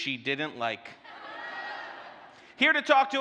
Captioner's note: audience laughter